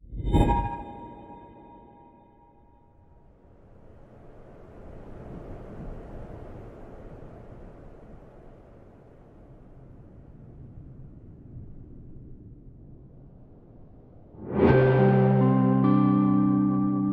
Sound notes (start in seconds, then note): 0.1 harsh tones; 3.4 wind whistling; 14.5 calm music